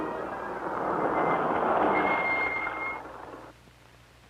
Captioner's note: car noises